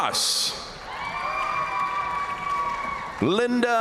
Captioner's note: crowd cheering; crowd applauding